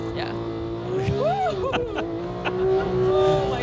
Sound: laughs

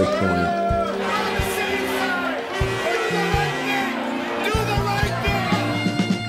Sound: yelling, horns blaring

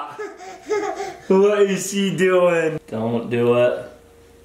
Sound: giggles

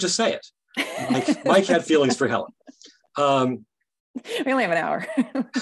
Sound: laughing loudly

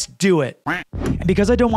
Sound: duck quacks

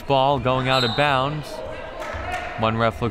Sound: whistle

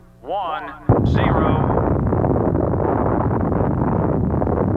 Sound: bomb blasting

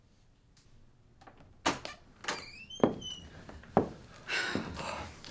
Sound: door Opening

